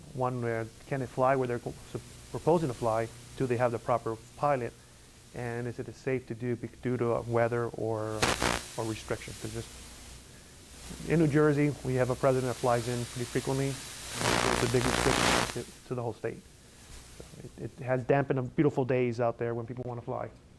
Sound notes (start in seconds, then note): 13.8 static